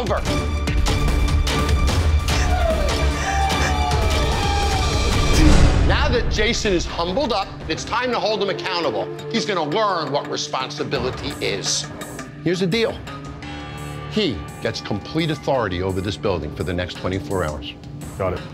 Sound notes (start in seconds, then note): 0.1 suspenseful music; 2.3 sobbing